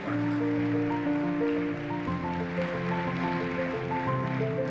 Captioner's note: applause